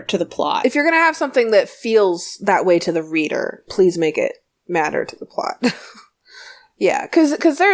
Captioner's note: laughs